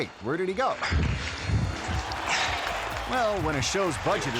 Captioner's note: host thudding; audience cheering